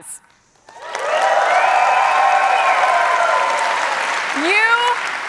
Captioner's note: cheers and applause